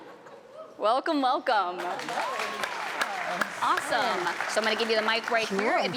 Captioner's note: applause